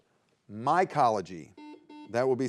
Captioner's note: buzzer beeps